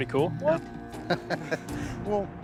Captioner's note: laughs